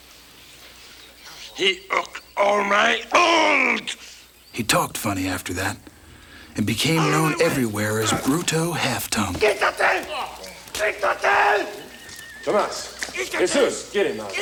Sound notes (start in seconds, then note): 9.4 Bruto yells in Spanish